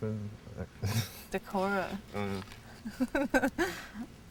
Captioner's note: laughs